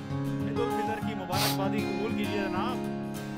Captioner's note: Jannat sniffs